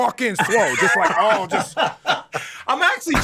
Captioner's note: both laughing